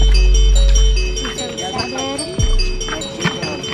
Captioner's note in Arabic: صراخ الأطفال